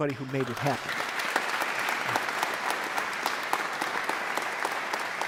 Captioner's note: audience applauds